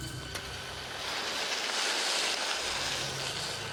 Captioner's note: body scrapes